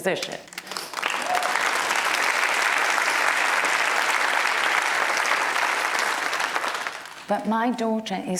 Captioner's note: applause